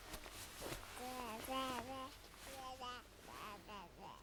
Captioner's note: baby cooing